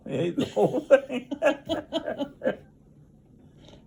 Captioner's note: laughs